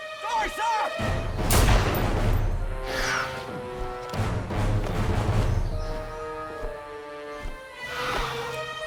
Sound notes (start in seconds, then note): 1.4 gun fires; 4.2 tense music